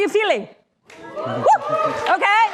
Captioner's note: cheering